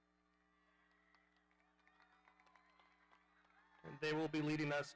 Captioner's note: audience applauding